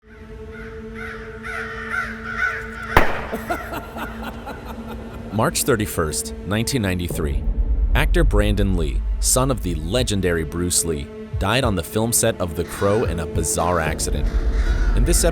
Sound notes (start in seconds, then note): 0.9 crow cooing; 3.4 man laughing